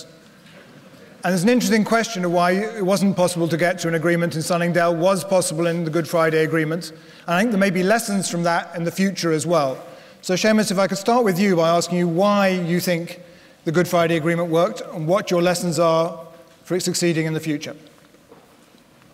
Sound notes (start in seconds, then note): none